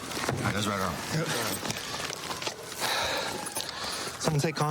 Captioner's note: sirens blaring